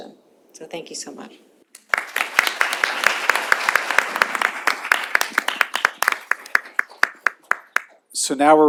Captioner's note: applause